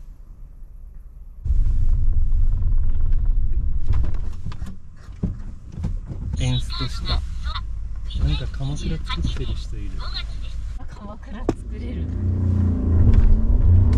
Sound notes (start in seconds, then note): 4.3 engine stalled